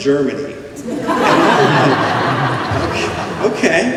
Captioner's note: laughter